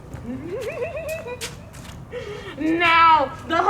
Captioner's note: chortling